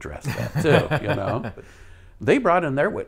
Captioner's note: laughs